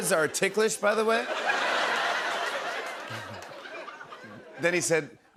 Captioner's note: laughter